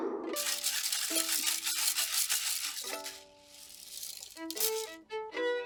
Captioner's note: rice shaking